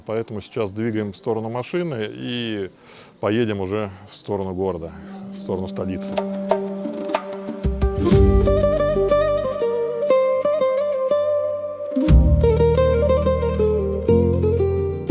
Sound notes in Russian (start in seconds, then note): 4.9 фыркает